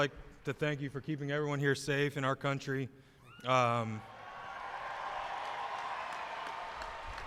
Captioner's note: applause